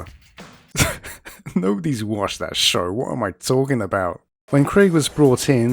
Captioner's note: laughs